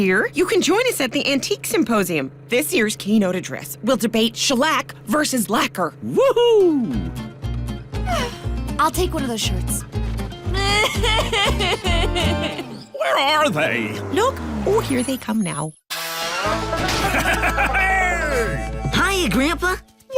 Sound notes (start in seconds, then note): 8.0 candace sighs; 10.5 sobbing